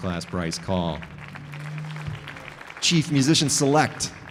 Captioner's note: audience applauding